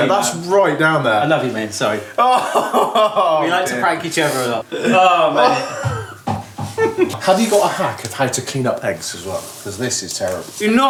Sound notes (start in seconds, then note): 2.1 laughs; 4.8 chuckles